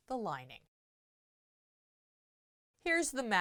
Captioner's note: no Sound Present